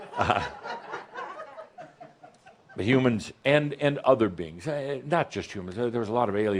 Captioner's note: more chuckles